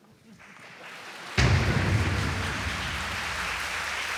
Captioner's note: applause